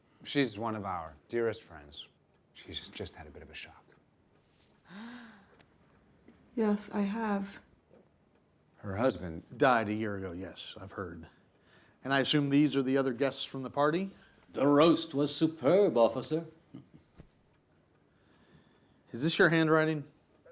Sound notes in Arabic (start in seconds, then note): 16.7 يضحك; 20.3 يتحدث عبر جهاز لاسلكي الشرطة